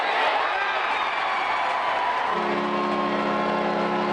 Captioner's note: natsot of goal